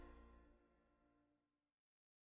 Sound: silence

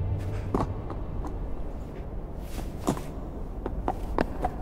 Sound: hooves clomping

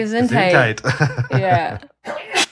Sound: sneeze

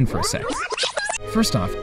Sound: rewind sound

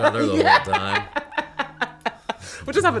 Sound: laughter

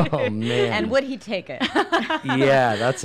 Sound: laughs

